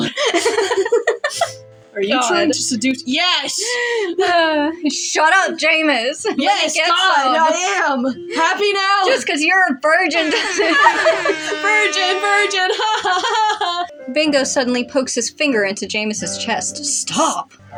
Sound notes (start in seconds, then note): 0.0 chuckle; 0.0 laugh; 3.9 recovering Sigh; 10.0 laugh; 10.1 air Horn; 10.2 quiet Laugh; 11.8 mockingly